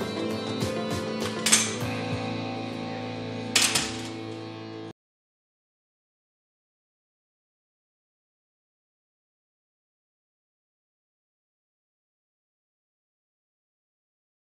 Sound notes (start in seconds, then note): 1.2 door opened; 3.5 door closed